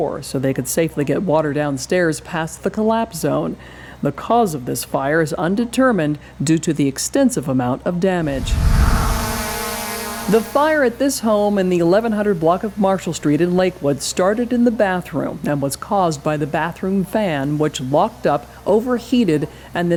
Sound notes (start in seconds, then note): 8.2 drone buzzing